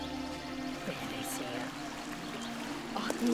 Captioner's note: speaking Algonquian